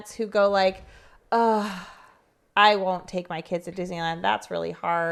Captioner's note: sighs